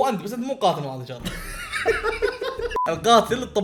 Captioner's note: laughter